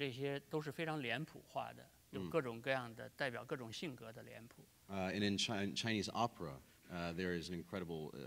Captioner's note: speaking in Chinese